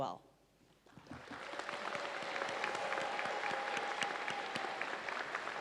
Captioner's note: audience applauds